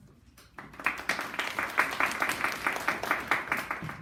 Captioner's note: clapping